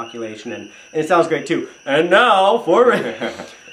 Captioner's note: theatrical stage voice; chuckles